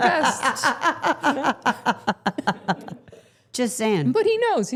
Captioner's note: Steph laughing